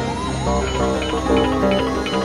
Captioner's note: Phone ringing